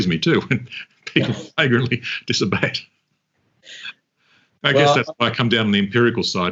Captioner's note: chuckles and mumbles